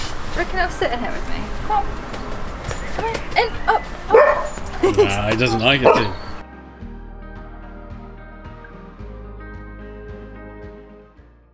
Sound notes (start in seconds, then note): 4.0 Bernard barks